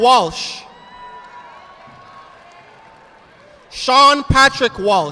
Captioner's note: audience applauding